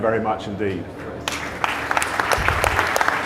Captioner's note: audience applause